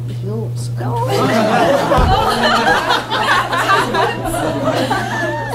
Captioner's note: laughter